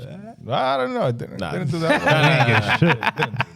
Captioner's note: laughing